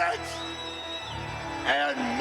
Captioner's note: crowd whistles